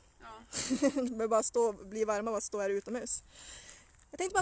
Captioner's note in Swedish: skrattar